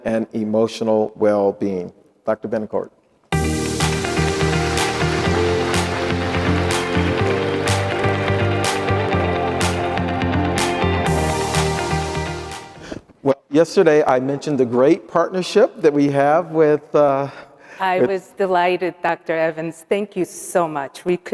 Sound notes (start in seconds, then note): 3.3 upbeat music; 3.4 audience applauding